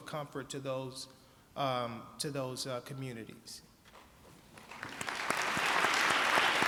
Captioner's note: applause